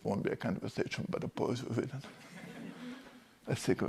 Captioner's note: class laughs